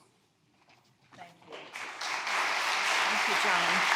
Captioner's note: audience applauding